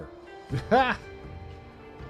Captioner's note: laughs